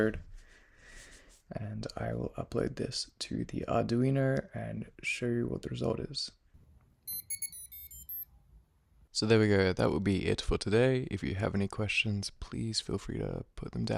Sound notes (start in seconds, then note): 7.0 piezo Buzzer beeping again